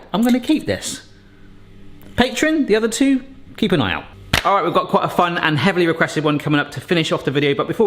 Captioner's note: none